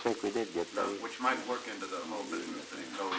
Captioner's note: production chatter